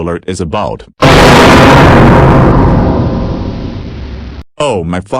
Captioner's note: GoAnimate Scary sound earrape